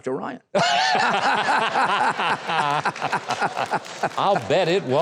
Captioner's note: audience and host laughs